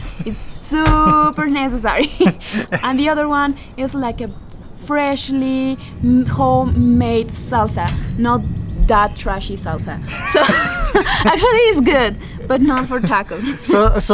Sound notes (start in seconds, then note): 10.0 laughs